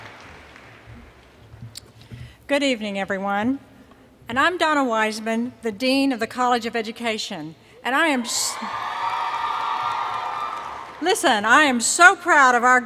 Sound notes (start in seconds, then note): 0.0 cheers and Applause; 8.1 cheers